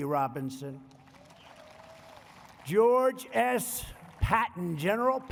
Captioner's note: applause